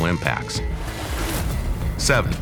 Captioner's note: intense music; air whips